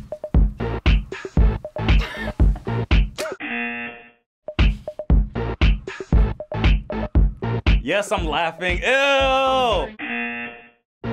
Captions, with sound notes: - (laughs) (buzzer) - Yes, I'm laughing. Eww! (buzzer)